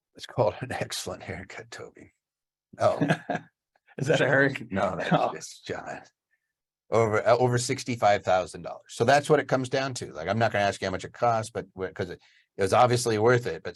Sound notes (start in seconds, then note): 2.8 laughs